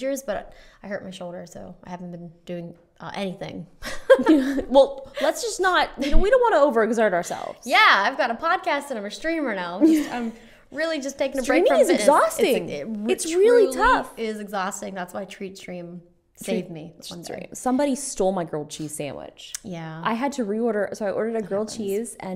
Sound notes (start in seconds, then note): 3.9 laughs